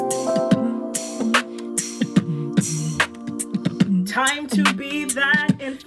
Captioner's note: beatboxing